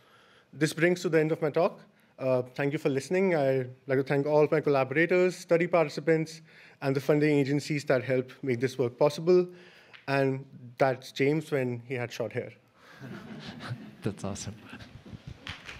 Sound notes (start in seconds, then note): 12.9 laughter